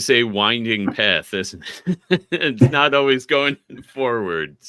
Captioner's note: chuckling